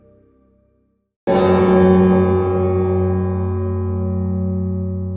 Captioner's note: extremely loud bell noise